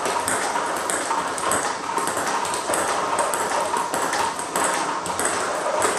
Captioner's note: ball ping pong hitting continues